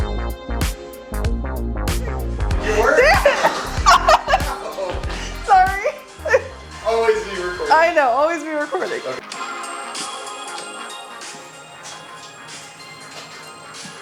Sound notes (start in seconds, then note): 2.5 laughs; 2.6 cameraperson laughs; 6.4 laughs; 10.2 groovy upbeat disco music